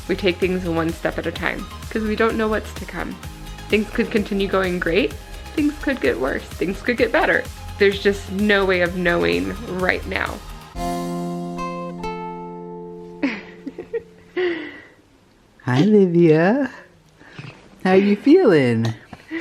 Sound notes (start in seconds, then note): 10.9 soft music; 13.2 laughing